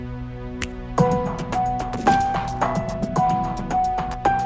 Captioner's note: fingers snapping